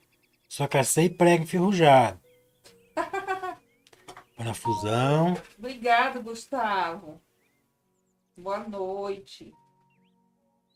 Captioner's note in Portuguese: risadas